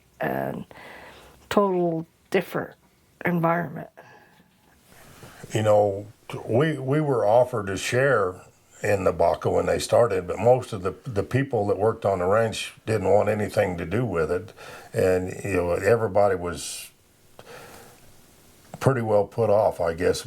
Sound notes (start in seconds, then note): none